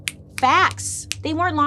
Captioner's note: fingers snapping